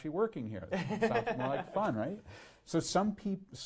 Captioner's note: laughs